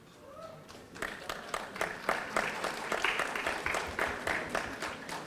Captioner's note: audience applauding